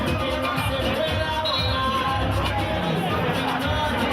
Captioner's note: music playing and buzzer sounding; whistling